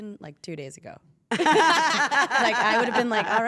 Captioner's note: laugh